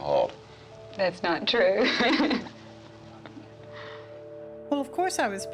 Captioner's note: chuckling